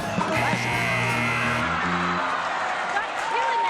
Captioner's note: buzzer